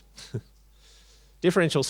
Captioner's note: chuckles